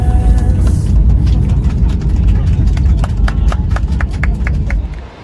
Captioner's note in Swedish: Applåder